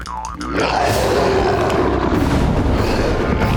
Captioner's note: roaring